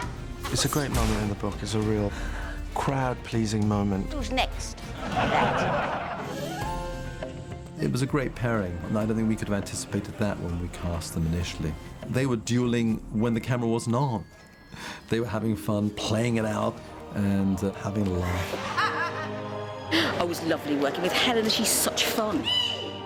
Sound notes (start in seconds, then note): 5.3 crew laughs; 18.5 laughs